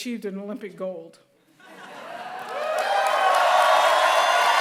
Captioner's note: laughter; applause